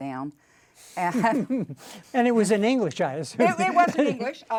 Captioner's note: laughs